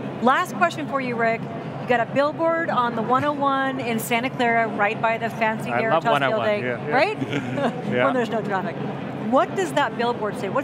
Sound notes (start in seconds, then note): 7.0 laughs